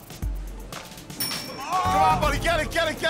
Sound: ding!

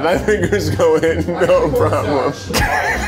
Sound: laughing; laughs

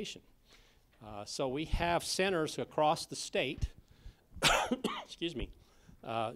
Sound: coughs

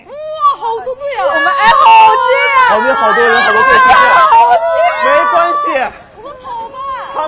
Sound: screaming!

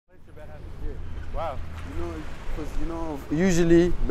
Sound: traffic, chatter

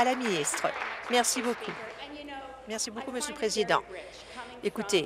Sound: applause

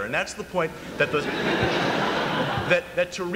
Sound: laughter

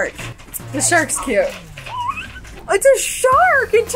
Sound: squeals

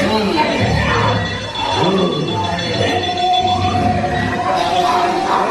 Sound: bell ringing

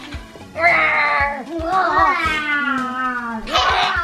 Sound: playful roars continue

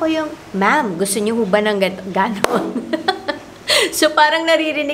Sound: laughs

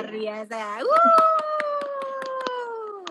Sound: applause

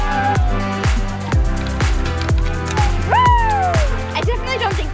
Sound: children scream

